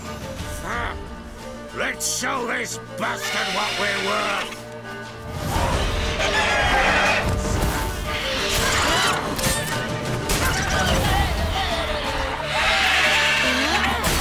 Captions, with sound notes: [growl] LET'S SHOW THIS BASTARD WHAT WE'RE WORTH! [squealing] [screech]